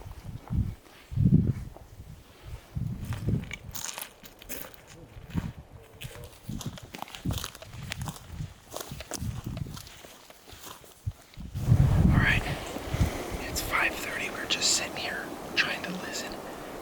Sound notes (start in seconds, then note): none